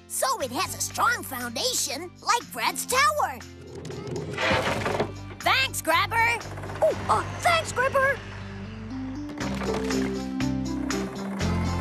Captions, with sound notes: SO IT HAS A STRONG FOUNDATION LIKE BRAD'S TOWER. ( Boulder Clattering ) THANKS, GRABBER! OH, UH, THANKS, GRIPPER!